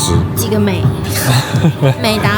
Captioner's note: laugh